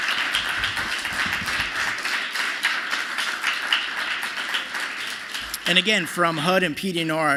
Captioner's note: applause